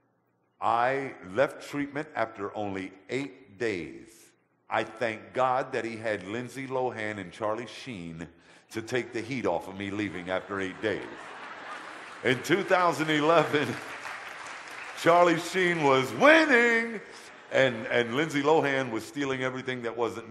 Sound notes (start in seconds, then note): 10.0 audience laughter; 12.4 audience applause